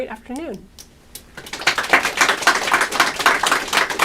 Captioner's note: applause